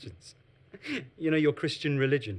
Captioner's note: laughs